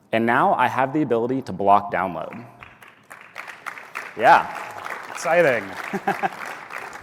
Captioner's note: applause